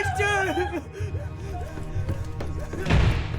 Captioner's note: hyperventilating; slam